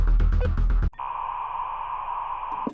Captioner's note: dial tone